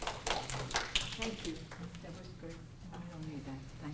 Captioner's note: applause